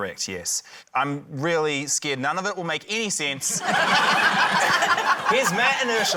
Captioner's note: laughter